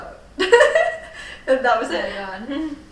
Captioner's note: laughing